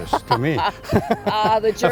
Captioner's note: chuckles